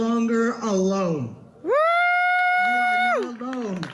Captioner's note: audience claps and cheers